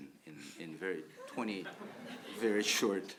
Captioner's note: audience laughs